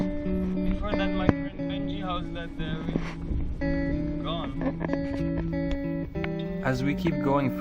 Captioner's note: broken English